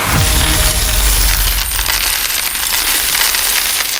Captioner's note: pennies clinking